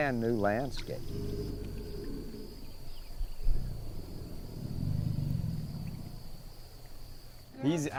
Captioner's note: alligator bellowing